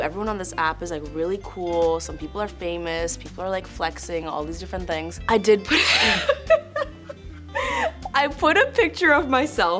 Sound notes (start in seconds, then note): 5.7 laughs